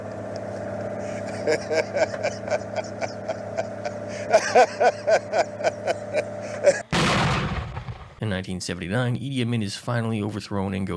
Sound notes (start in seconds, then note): 1.1 laughter